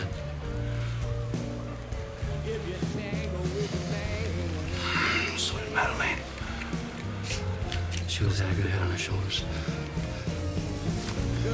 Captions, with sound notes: (SNIFFS DEEPLY) So did Madelaine. She always had a good head on her shoulders.